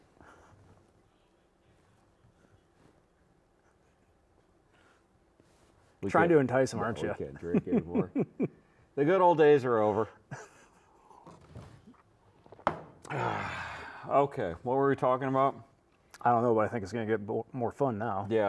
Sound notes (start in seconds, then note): 12.6 glass thudding; 13.0 sighing